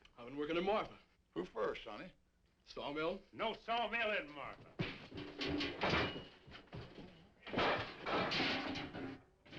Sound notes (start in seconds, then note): 5.3 pots banging